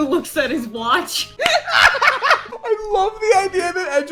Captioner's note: laughter